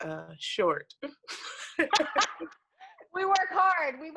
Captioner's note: laugh